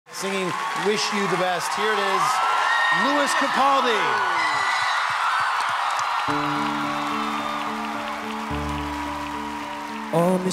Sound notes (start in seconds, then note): 4.1 applause